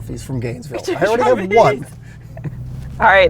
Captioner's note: laughs